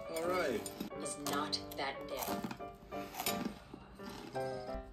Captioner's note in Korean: 대충 맛있는 소리